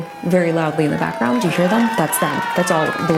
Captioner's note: crowd cheering